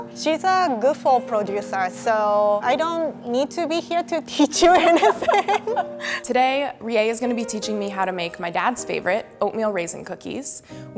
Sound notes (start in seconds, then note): 4.6 laughing